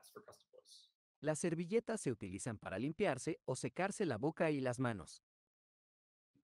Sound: speaking spanish

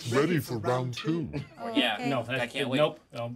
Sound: speaker chuckles

